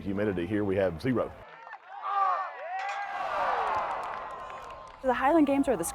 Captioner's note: crowd cheering